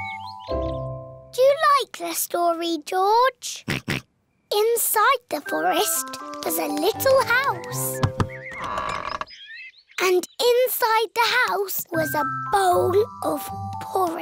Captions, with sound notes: -Do you like this story, George? -(OINKS) Inside the forest was a little house. (DOOR CREAKS) And inside the house was a bowl of porridge.